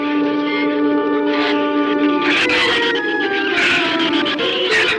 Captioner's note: shrews chatter